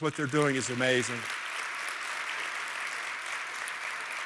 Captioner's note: applause